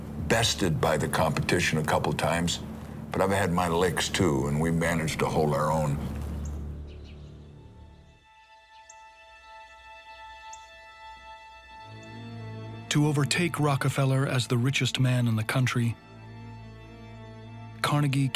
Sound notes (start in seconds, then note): 6.5 birds chirping